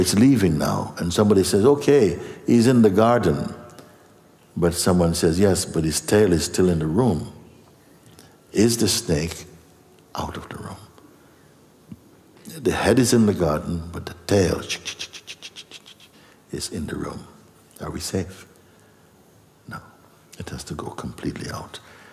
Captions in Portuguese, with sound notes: Então ela está saindo agora e alguém diz, 'Tudo bem. Ela está no jardim!' Mas alguém diz, 'Sim, mas a cauda ainda está no quarto!' A cobra está fora do quarto? A cabeça está no jardim, mas a cauda [som de chocalho], está no quarto. Nós estamos seguros? Não. Ela tem que ir completamente pra fora.